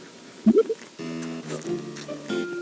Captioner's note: nom nom